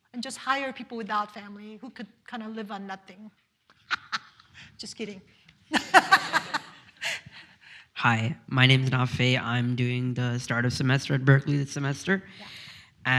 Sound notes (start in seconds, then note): 3.8 laughs; 5.7 all laugh